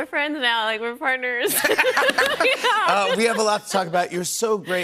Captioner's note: laughter